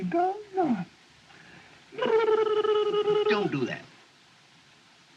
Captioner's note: babbling